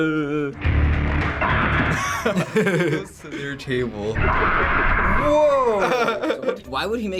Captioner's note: both laugh; laughs